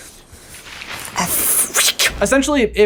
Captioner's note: thunder roaring